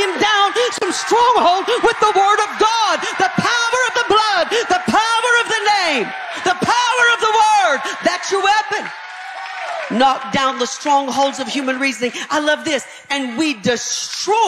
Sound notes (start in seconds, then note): 4.0 audience cheering; 9.0 audience cheering